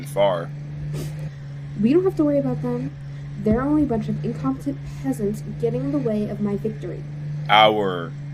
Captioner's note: scoffs